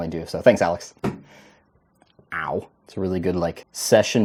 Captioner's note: leg hits table